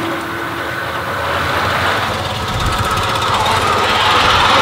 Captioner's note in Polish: dźwięk jadącego samochodu